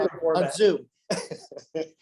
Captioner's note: laughs